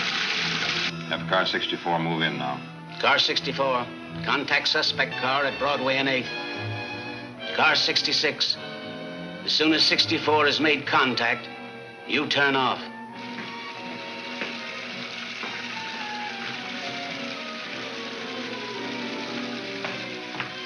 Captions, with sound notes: - Have Car 64 move in now. - Car 64, contact suspect car at Broadway and 8th. Car 66, as soon as 64 has made contact, you turn off. (water splashing)